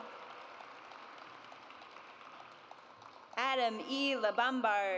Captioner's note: audience applauds